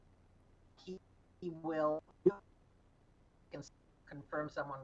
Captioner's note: audio cuts out